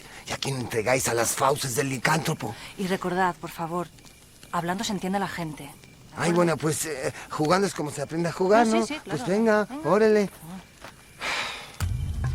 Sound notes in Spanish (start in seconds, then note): 10.8 Suspiro; 11.8 Música emocionante